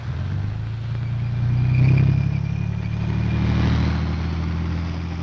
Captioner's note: tank engine rumbling